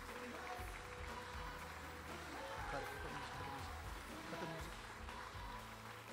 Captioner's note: applause